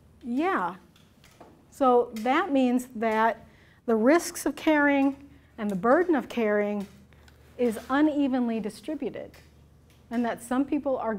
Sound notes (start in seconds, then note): none